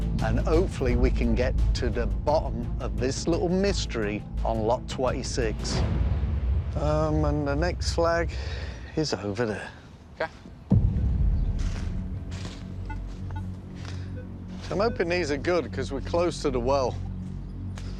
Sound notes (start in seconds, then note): 12.7 beeping